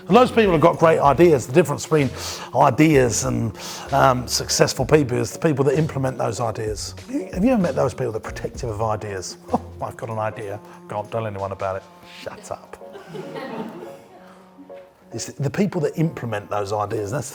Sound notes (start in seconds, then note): 9.2 scoffs; 12.8 audience laughs